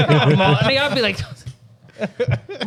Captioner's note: laughing